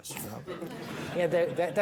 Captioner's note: audience laughing